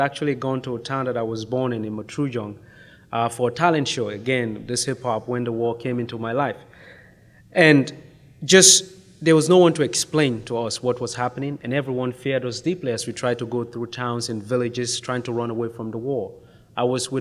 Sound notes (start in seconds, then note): none